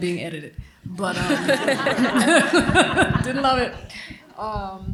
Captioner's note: laughter